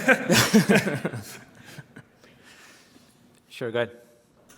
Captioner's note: laughter